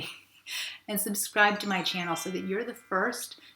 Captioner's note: twinkling